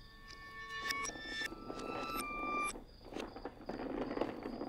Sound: trash can rolling down driveway

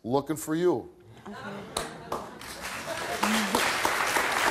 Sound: audience claps

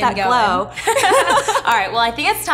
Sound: laughing

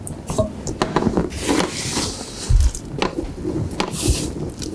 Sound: pan scraping

